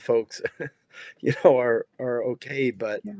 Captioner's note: laughing